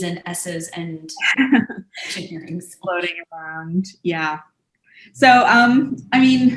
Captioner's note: chuckles